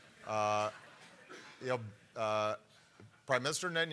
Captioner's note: laughter